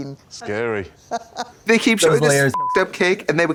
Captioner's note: laughing; beep